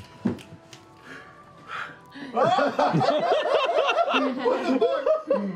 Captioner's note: gasps